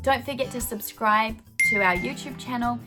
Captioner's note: bell ringing